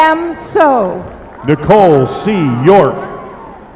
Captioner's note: applause